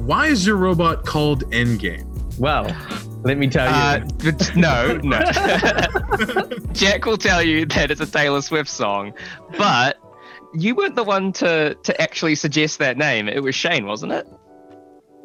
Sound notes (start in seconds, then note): 3.5 laughs